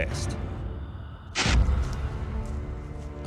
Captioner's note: ominous music; soft footsteps